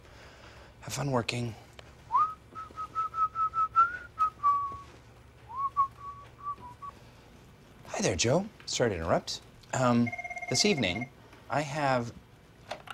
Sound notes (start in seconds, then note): 2.1 whistles; 9.8 telephone rings